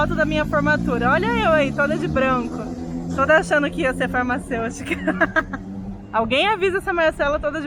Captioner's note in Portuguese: risada